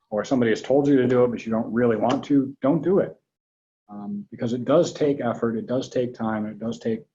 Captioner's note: none